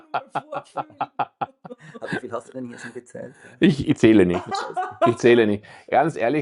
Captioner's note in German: gelächter